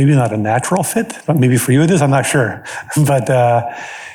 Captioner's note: chuckles